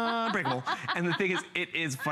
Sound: laughter

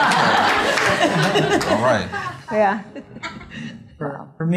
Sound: laughter

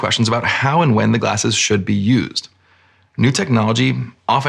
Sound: none

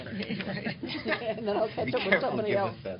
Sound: laughter

